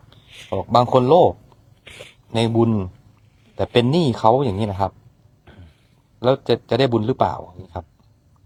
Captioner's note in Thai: เสียงสูดหายใจ